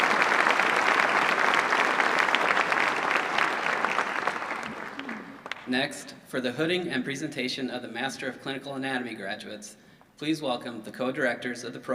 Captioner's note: applause